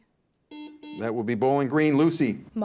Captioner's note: buzzer beeps